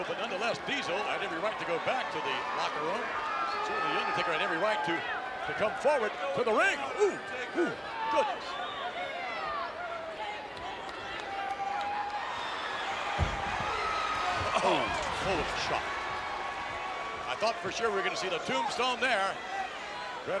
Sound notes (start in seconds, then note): 9.7 crowd clamors; 12.5 crowd cheers